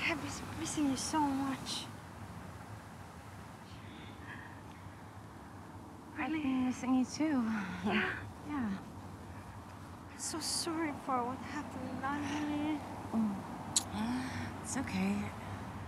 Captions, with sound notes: I have been missing you so much. - I've been missing you too, yeah. - I'm so sorry for what happened. (murmuring) - It's okay.